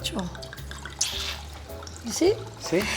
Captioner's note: water pouring